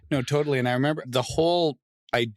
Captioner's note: laughs